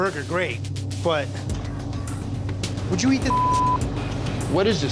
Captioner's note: beep